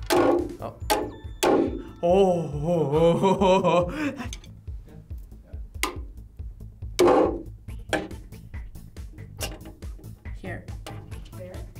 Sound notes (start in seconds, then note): 0.0 hammer slams; 1.4 nail thuds; 2.2 laughs; 6.9 nail thuds; 7.0 hammer slams